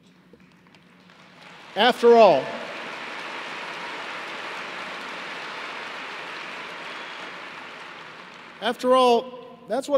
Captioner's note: applause